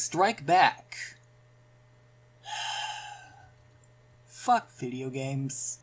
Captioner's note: sigh